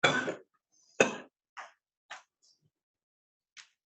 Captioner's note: coughs